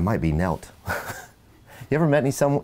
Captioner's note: laughs